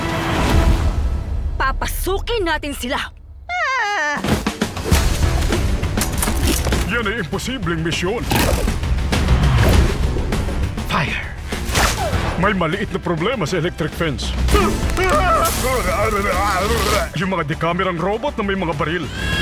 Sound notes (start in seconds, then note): 4.7 energetic music playing; 11.3 whoosh; 15.8 electricity crackles